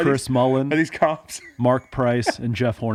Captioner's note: laughs